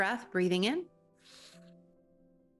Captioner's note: inhales deeply